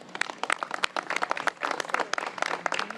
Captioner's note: applause